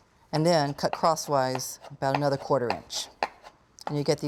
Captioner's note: none